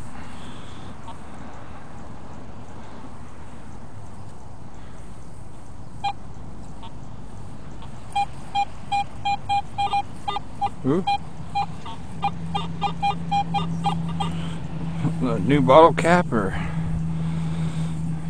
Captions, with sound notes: High Tone ( Beep Beep Beep ) Ohhh New Bottle Cap or ?